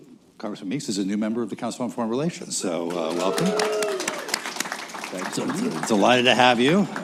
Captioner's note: cheers, applause